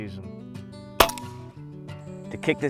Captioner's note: shot firing